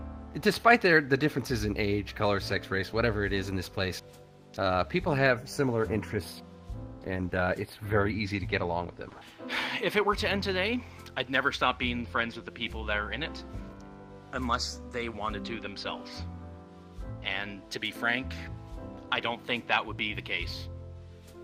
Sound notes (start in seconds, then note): 9.4 sigh